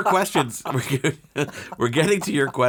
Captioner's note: both laughing